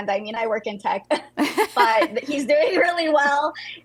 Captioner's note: both chuckle